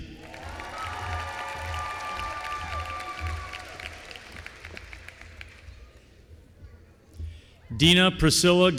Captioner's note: applause